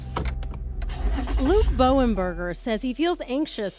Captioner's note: car engine starts